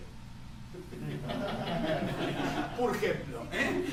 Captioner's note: laughter